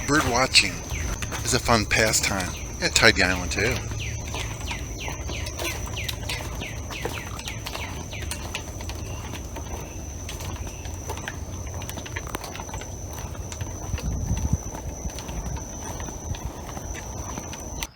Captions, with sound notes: Birdwatching is a fun pastime at Tidy Island, too. (birds chirping) (footsteps tapping)